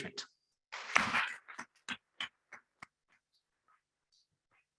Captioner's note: members clapping